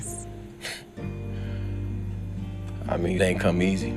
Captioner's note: chuckles